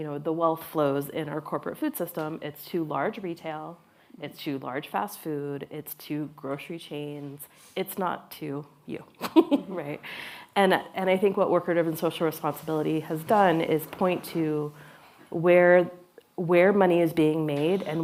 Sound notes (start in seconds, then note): 9.2 laughs